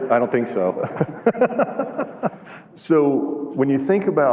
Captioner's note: laughter